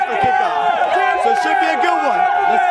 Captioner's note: fans Cheering